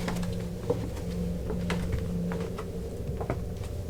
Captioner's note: footsteps